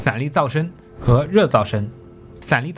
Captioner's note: Thermal noise